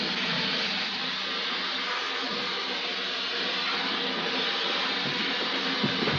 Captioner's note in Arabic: يستمر صوت موقد اللحام; يسقط التمثال ويصطدم بالأرض